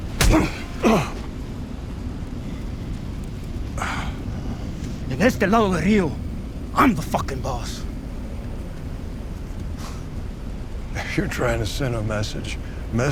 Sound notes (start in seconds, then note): 0.2 skin slaps; 0.2 Tommy grunts; 5.1 speaking in foreign language